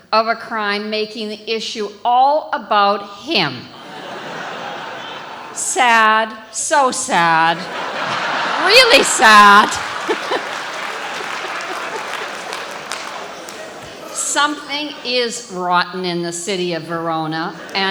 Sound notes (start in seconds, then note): 11.0 audience applauding